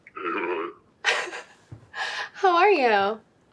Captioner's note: altered male voice